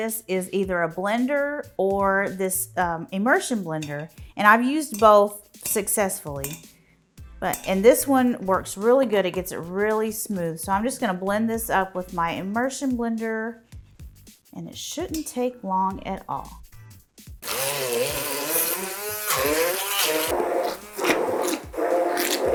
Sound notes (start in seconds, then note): 17.4 blender whirring